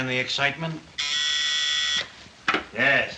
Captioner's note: intercom buzzes